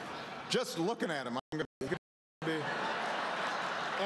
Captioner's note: laughter